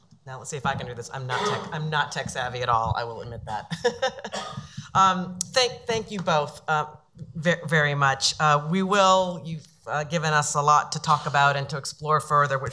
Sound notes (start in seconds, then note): 3.5 laughs